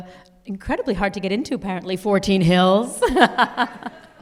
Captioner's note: laughs